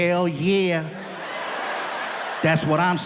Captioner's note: audience laughs